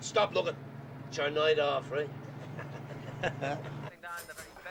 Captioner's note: Risas